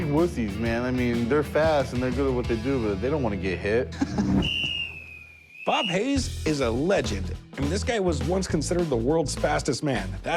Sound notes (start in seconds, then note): 3.9 laughs